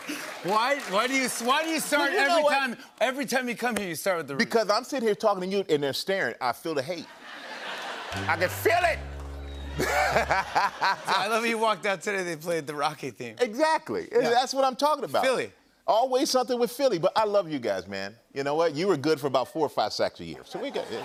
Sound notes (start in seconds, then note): 7.0 laughter; 8.1 sad tuba; 9.8 laughter